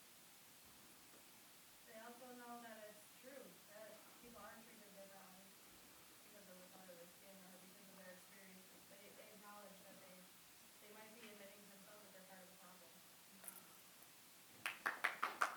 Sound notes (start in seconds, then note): 5.0 applause